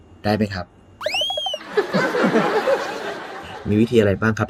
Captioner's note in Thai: หัวเราะ